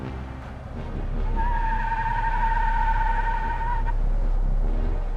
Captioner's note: tires squealing